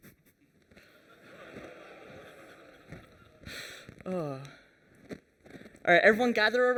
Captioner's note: laughter